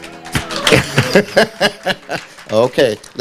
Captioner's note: audience clapping; laughing